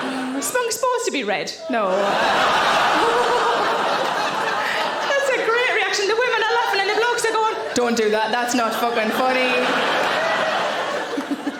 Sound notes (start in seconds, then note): 0.0 audience laughing; 2.3 audience laughing; 9.6 audience laughing; 11.0 Sarah laughing